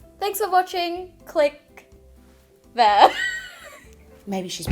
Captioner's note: laughs